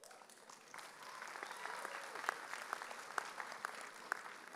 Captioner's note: audience applauding